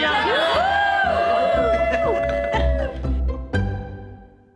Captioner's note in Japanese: キャストとスタッフの歓声